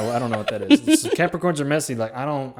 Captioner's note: laughing